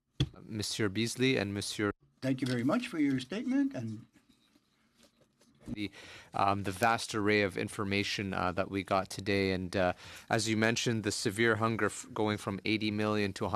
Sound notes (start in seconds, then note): 6.1 speaking in French